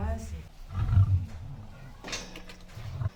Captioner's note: roar